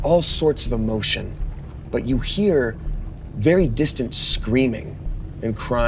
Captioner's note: none